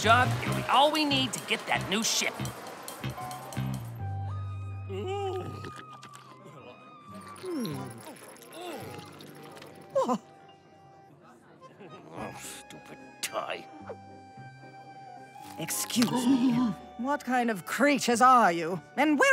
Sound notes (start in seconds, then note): 10.1 gasps; 12.1 grumbling; 15.7 gasps